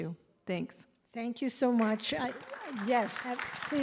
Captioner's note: applause